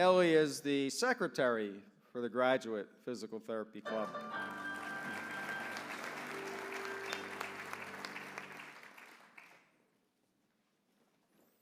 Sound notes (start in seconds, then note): 3.9 applause